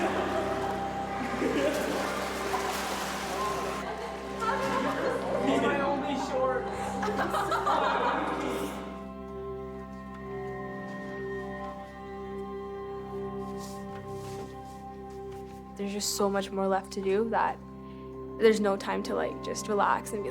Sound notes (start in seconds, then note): 1.2 laughter; 1.9 water splashes; 4.1 overlapping chatter; 6.8 laughter